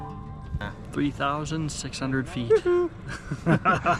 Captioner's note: laughs